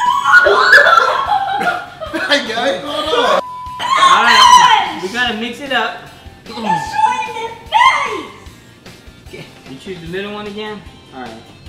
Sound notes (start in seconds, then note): 0.0 screaming; 3.4 beep; 7.7 screaming